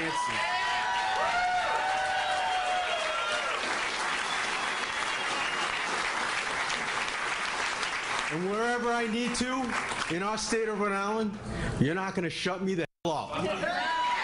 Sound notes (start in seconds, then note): 6.5 applause